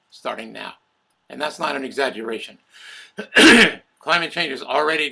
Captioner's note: clears throat